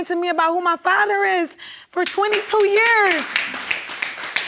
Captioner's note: audience applauding